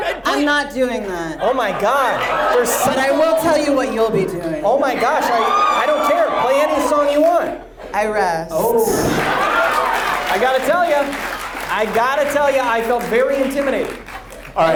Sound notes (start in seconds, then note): 10.1 audience laughs